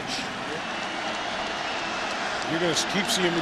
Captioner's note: crowd cheering